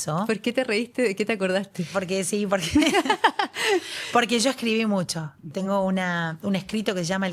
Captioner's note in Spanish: risas